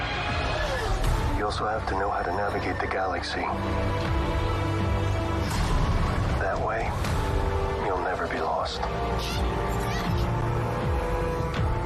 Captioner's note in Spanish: AUDIO EN INGLéÉS